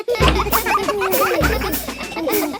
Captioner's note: children laughing